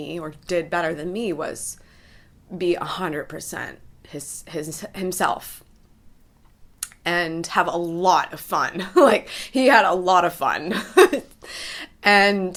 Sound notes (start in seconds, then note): 10.2 laughs